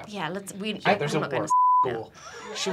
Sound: beeping

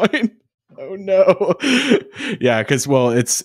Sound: both chuckling

